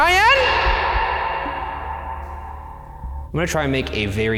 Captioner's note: voice echoing